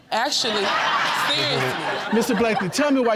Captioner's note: audience laughing